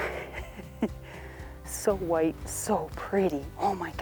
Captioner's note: laughing